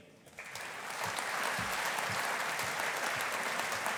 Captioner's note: audience applauding